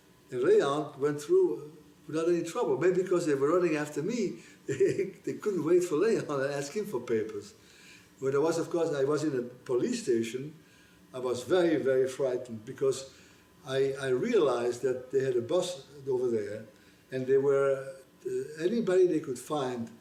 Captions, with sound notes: Leon went through without any trouble maybe because they were running after me. (laughs) They couldn't wait for Leon and ask him for papers. But there was, of course, I was in a police station. I was very, very frightened because I realized that they had a bus over there and they were, anybody they could find,